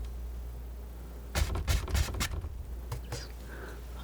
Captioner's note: scratching